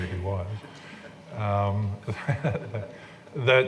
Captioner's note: laughing